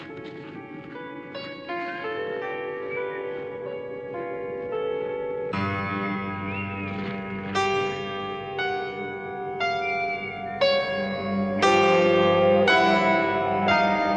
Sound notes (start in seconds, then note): 2.6 whistling in the distance; 5.6 ominous music; 9.7 whistling continues